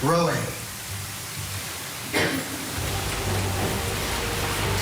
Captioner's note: cough